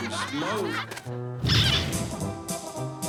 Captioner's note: squeaking; tiptoeing